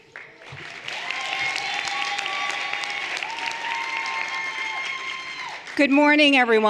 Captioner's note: everyone applauding and cheering